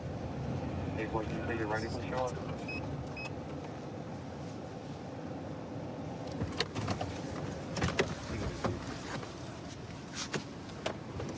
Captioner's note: indistinct dispatch speech